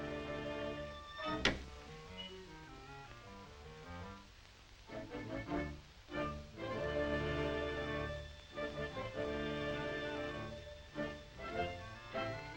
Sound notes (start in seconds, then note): 1.2 hinge squeaks; 1.2 panel shuts; 8.2 meandering music